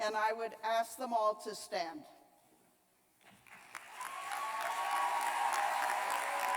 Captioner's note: cheers and applause